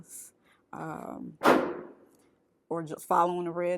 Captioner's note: gunshot booms